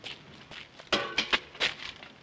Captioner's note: clang